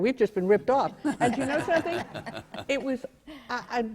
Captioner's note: laughter